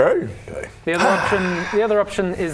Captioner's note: sigh